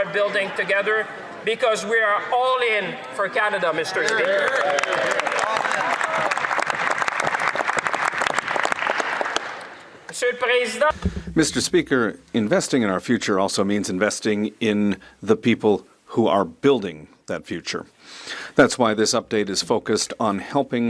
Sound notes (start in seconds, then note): 9.0 some Applause